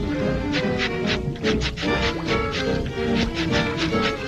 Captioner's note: jazzy music; knife slashing; jazzy music